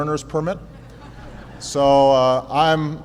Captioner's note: laughter